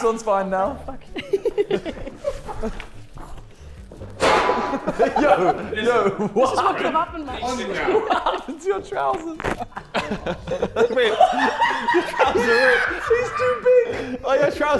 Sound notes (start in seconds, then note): 1.1 laughing; 5.0 Sidemen laughing; 10.5 Sidemen laughing